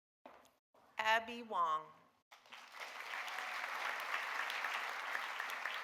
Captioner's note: audience applauding